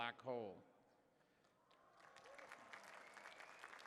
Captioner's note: applause